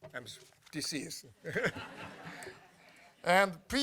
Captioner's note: laughter